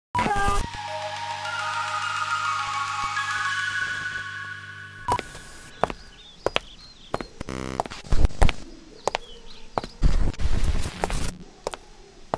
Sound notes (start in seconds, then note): 5.1 footsteps